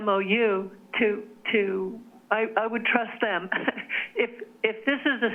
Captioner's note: chuckles